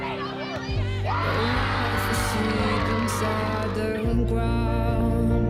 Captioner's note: energetic yells and cheers